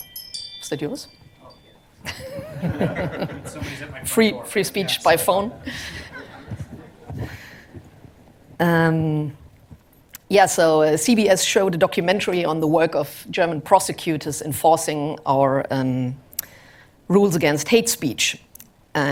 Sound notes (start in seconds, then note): 2.0 laughter